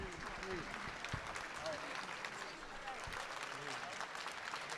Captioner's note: audience applauding